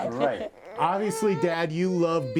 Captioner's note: cries